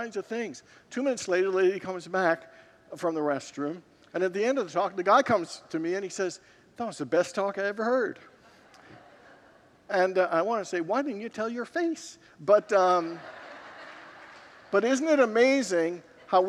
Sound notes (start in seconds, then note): 8.4 congregants laugh; 12.6 congregants laugh